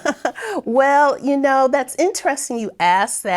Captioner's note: laughing